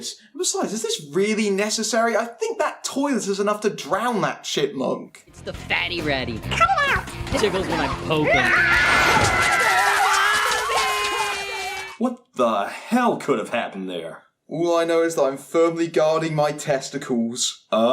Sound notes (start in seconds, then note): 8.2 clothes tearing and screams; 8.2 Alvin and Simon scream